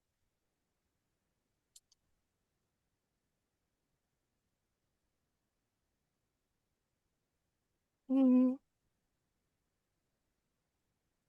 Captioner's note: silence